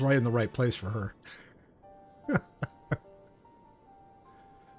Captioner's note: laughs